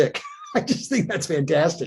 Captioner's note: chuckles